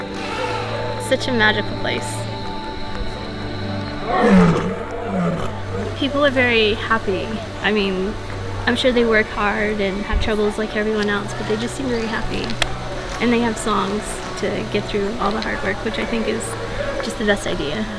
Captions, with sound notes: [ELEPHANT TRUMPETS] It's such a magical place. [LION ROARS] People are very happy. I mean, I'm sure they work hard and have troubles like everyone else, but they just seem very happy. And they have songs to get through all the hard work, which I think is just the best idea.